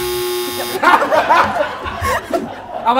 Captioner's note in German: Gelächter